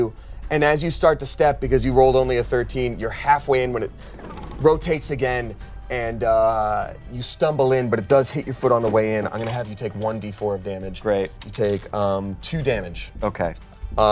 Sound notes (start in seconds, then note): none